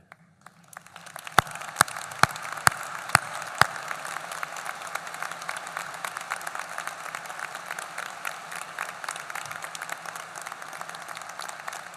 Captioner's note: applause